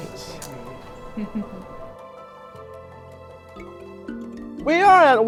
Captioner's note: speaker chuckling